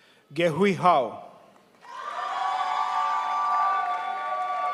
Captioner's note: crowd applauds